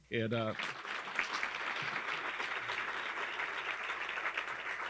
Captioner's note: audience clapping